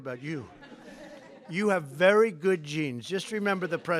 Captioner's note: laughter